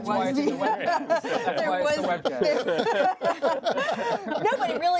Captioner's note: laughter